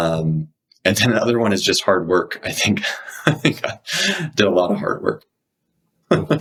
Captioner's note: laughs